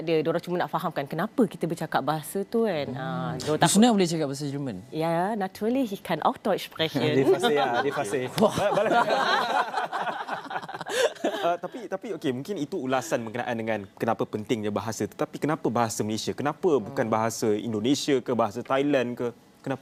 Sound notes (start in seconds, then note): 5.5 speaking German; 7.2 laugh